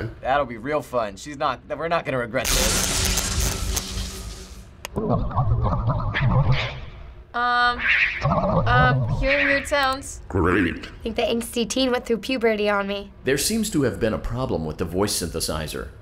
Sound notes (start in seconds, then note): 2.4 buzzing and crackling; 4.8 distorted noises; 10.2 guide, distorted